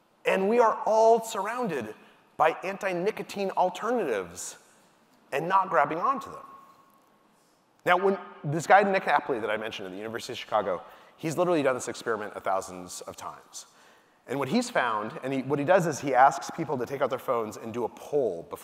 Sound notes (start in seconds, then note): none